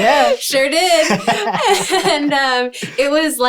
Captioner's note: laughing